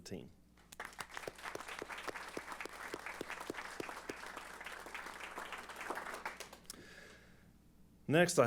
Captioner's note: applause